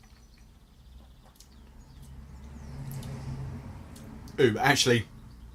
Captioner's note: smacks lips